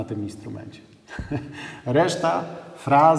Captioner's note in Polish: śmiech